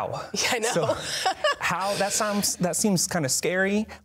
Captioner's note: laughs